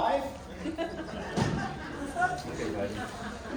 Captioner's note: laughter from Crowd